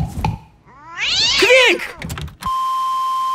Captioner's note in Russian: Хором